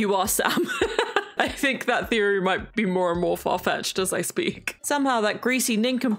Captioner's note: laughs